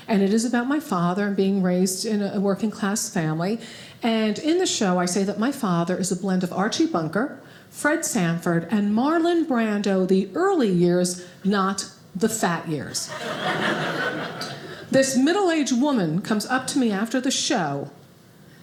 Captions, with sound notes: and it is about my father being raised in a working class family, and in the show, I say that my father is a blend of Archie Bunker, Fred Sanford, and Marlon Brando the early years, not the fat years. (audience laughing) This middle-aged woman, comes up to me after the show,